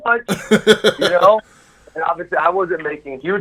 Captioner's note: laughs